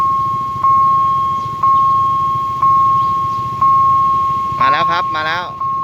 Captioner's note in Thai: ติ๊งๆๆๆ